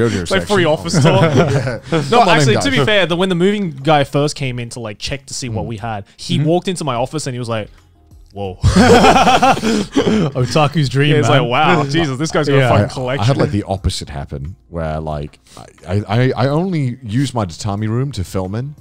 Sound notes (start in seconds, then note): 0.1 all laughing; 8.6 all laughing